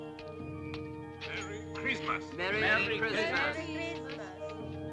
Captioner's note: spoken English